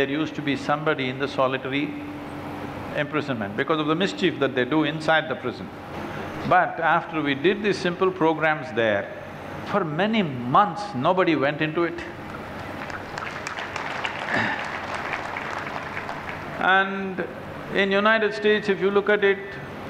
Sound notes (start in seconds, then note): 15.2 applause